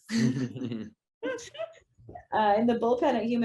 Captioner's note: actors laughing